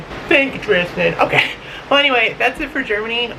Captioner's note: lols